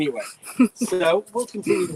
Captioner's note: chuckles